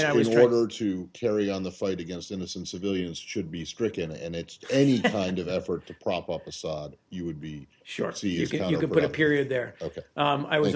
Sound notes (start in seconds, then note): 4.6 laughter